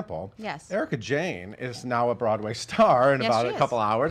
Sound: chuckles

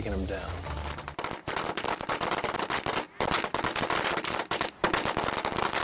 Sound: firecracker exploding

